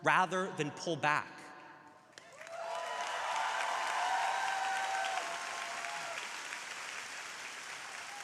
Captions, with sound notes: rather than pull back. (crowd applauding)